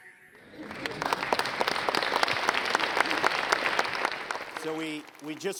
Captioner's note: bright music; audience applauds